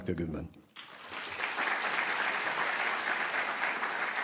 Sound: applause

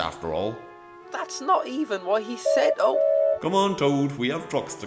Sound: oliver whistles

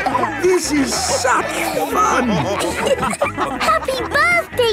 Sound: dance party music; laughing

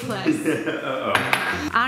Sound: laughing

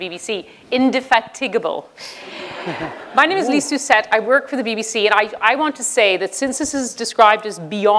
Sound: laughter

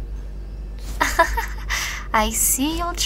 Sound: laughs

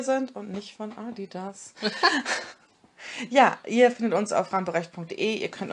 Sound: both laugh

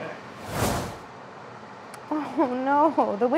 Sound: picture swoosh out

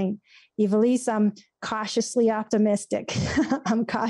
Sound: laughs

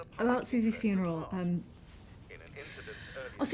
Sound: sighs

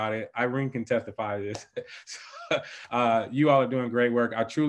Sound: laughing

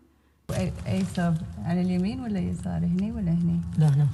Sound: non-english speech

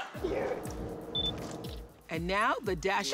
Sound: laughs; camera beeps

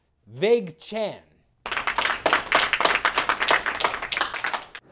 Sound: light applause

